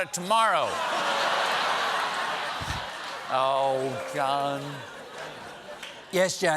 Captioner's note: laughter